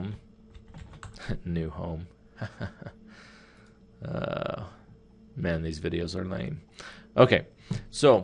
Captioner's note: chuckles